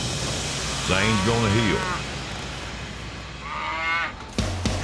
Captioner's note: steer moos